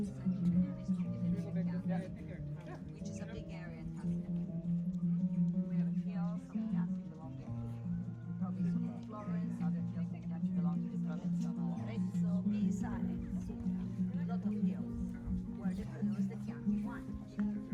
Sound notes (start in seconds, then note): 0.1 soft music; 5.1 people talking